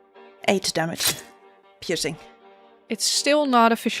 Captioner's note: sound of a blade impact on flesh